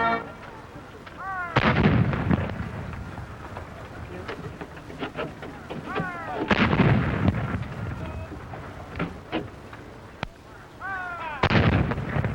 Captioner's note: artillery fire